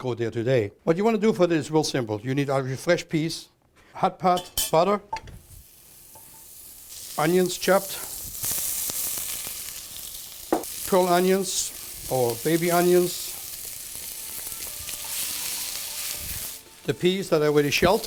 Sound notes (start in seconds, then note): 5.8 sizzling; 9.0 chopping